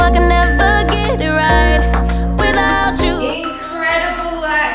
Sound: timer beeping

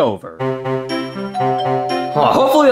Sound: playful music; doorbell rings

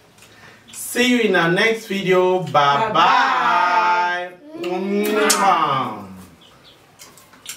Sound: kisses

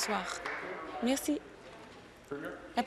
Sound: applause

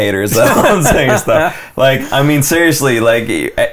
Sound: laughter

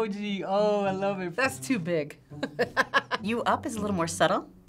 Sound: laughing

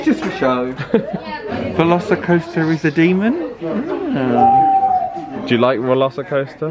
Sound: laughs; owl hoots

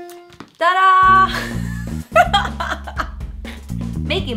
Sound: laughs

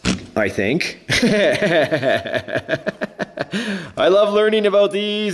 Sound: laughing

